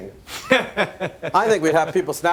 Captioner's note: laughs